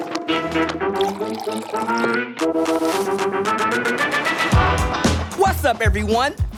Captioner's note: coffee pours; jazzy music plays